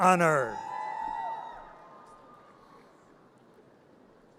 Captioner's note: audience cheers